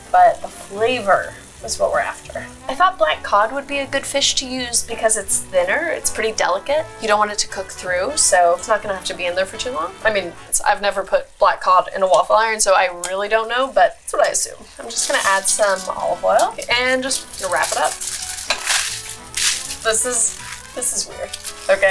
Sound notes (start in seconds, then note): 18.0 tin foil crinkling